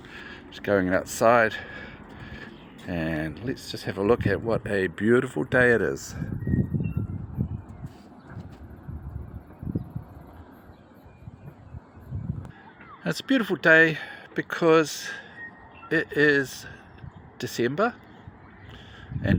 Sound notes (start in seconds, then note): 6.2 bird song